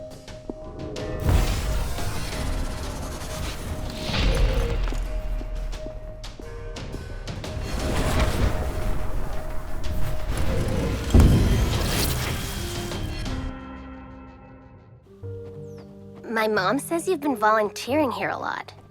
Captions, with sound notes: [magical buzzing] [footsteps] [door closes] My mom says you’ve been volunteering here a lot.